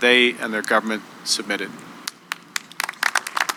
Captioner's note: applause